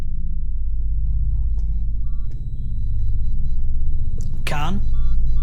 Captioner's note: machine beeps